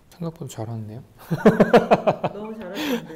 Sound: hahaha

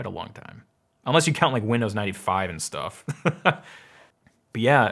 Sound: laughs

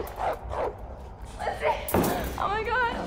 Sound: dog barking

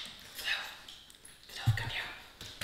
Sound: whispering

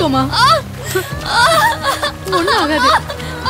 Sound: heavy rain & thunder sounds; suspense music

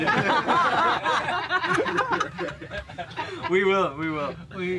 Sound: everyone laughs

